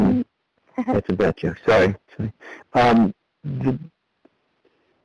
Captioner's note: chuckles